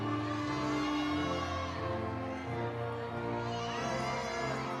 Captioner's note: audience cheering